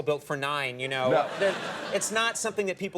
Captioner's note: audience laughs